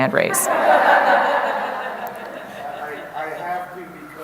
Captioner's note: laughing